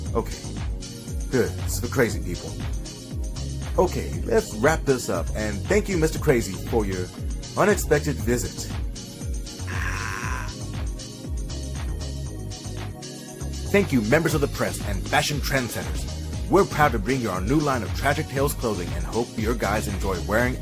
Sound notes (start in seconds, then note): 9.6 screeching